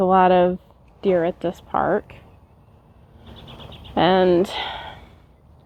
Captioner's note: heavy sigh